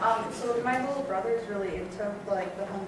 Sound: voiceover

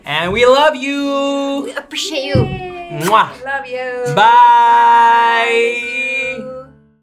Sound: kisses

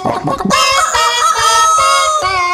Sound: rooster sound

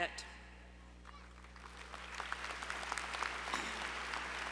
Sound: applause

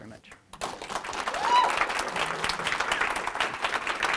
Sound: crowd clapping

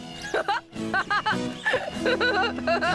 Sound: laughing

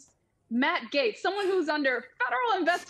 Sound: laughs

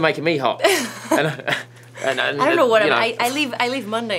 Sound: laughs

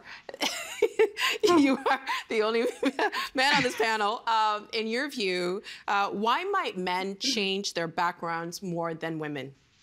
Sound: laughing

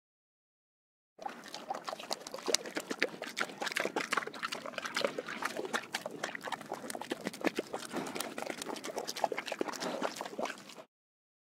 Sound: sound of pig drinking

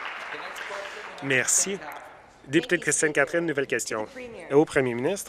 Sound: applause

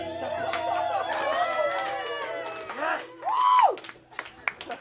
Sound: cheering and clapping

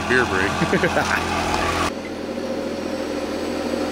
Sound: laughing

